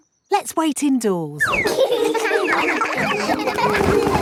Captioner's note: all giggling